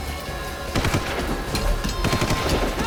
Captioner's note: gunshot